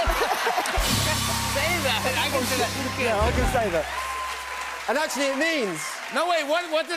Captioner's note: both laugh; cheers and applause